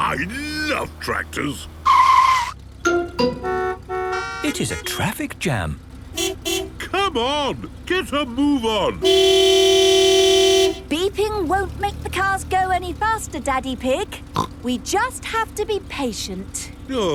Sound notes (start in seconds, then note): 2.1 tires screeching, horns honking; 6.1 honking; 9.0 honking; 14.3 snorts